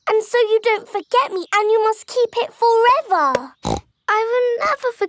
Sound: snorts

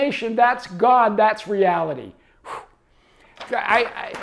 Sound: exhales loudly; page shuffles

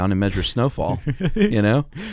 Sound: laughing

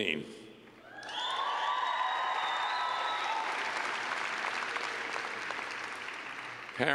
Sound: cheers and clapping

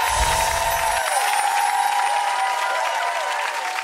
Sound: audience cheers

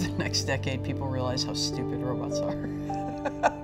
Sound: laughs

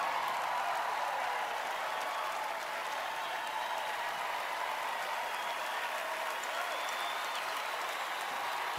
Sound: cheering, applause

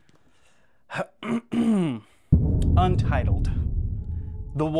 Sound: clears throat

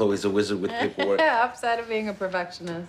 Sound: laughs

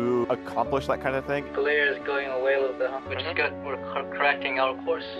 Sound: on the radio

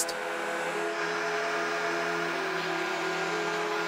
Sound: machines whir

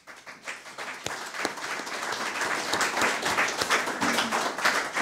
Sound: audience applause

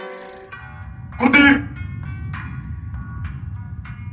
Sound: vietnamese

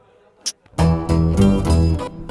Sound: kisses

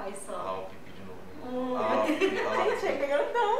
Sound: laughs

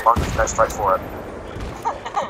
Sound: whinges with despair

